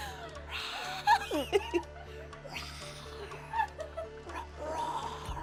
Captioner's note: group laughs; imitates growling